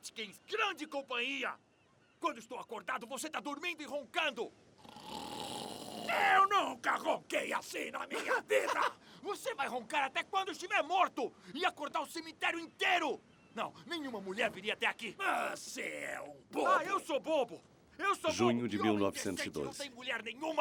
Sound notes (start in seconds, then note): 4.8 making loud snoring noises; 7.7 laughing